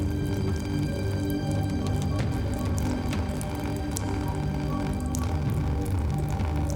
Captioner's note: ominous music continues; blood plopping